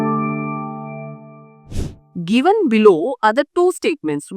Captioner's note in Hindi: नाक से की जाने वाली आवाज़